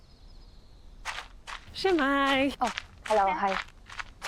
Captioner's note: in Welsh